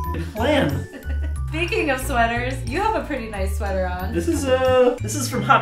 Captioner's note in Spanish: risas